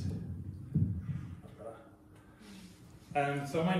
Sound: adjusts microphone

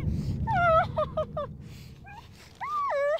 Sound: crying

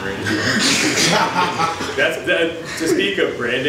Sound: audience laughs

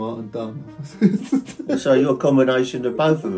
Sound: laughing

